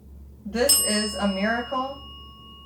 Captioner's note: bell dings